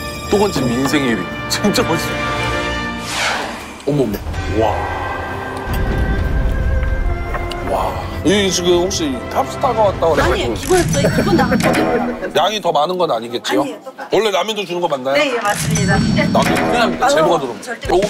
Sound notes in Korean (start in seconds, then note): 3.0 스윽